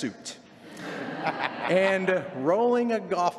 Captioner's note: laughter